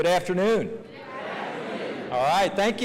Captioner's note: crowd